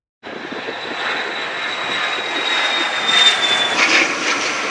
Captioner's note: jet taking off